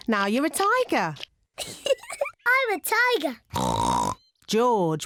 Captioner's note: giggles; oinks